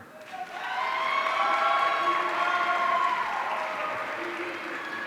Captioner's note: audience cheering